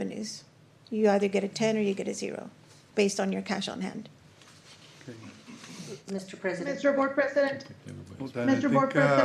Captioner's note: snorts